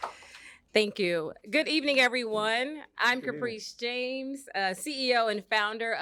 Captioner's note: applause